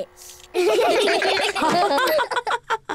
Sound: all laugh

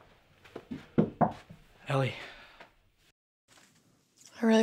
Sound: knocks

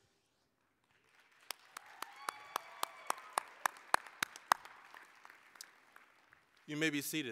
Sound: applause, cheering

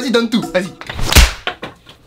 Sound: slap

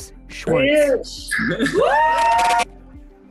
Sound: cheering

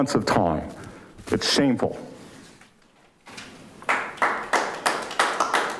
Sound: audience applauding

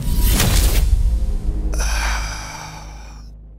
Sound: sighhhhhhhhhhhhhh

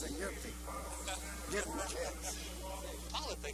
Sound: laughter

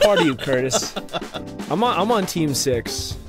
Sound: laughing

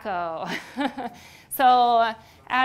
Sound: laughs

